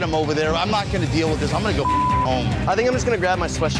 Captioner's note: beep